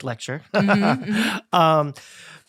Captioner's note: laughing